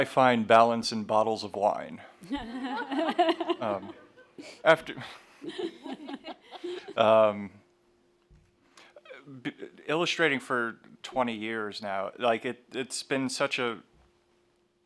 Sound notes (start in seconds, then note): 2.2 laughter